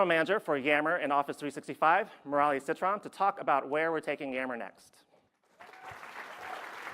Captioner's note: applause